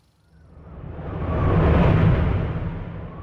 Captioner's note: fierce wind